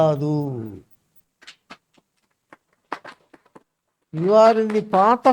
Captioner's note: claps